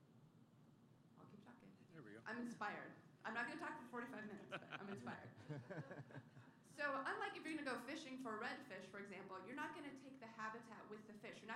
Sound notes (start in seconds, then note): 4.1 laughter